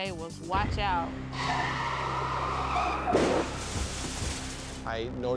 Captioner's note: tires screeching; vehicles thudding